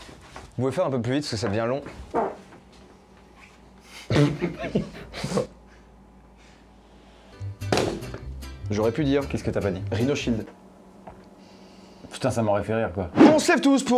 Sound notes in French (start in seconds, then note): 3.9 rire